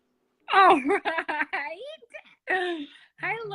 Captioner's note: laughs